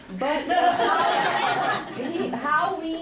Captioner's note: laughter